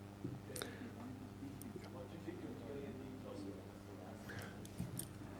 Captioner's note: man speak softly